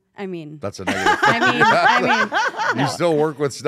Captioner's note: laugh